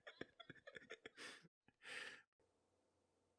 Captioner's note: bursts out laughing again; weeps softly fading into darkness